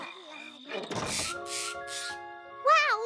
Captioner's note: chirping